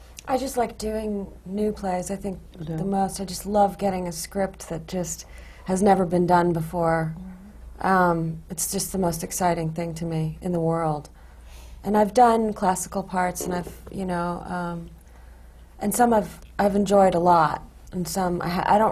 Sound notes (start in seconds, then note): none